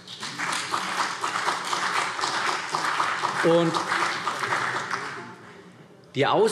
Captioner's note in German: Beifall CDU und vereinzelt BÜNDNIS 90/DIE GRÜNEN